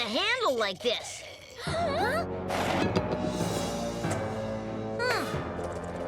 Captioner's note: Tabitha gasps; dramatic music